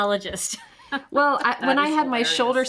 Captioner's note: chuckles